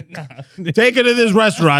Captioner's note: laughing